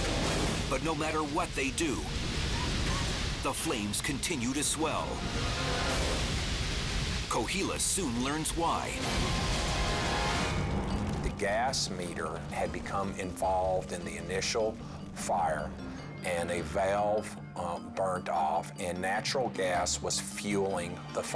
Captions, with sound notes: but no matter what they do, the flames continue to swell. Cohilas soon learns why. (fire roaring) - The gas meter had become involved in the initial fire and a valve burnt off and natural gas was fueling the fire.